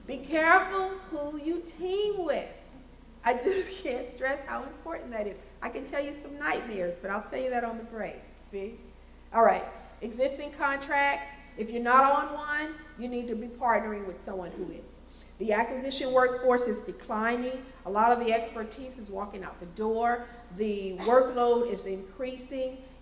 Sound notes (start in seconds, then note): 3.4 laughs